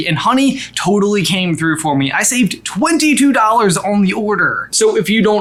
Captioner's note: none